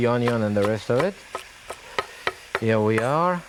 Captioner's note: knife thudding